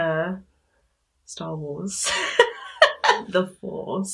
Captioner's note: laughs